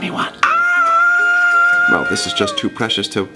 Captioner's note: screams